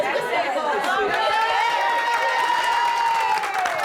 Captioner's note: applause, cheering